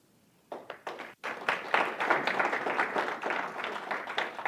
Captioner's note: audience applauds